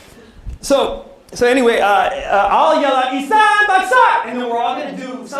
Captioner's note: non-english speech